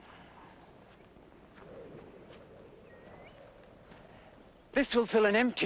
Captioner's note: wind blowing